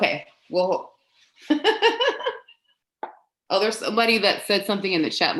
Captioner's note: laughs